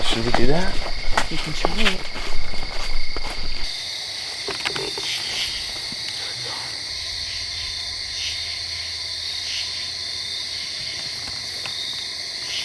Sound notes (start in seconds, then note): 4.1 insects chirp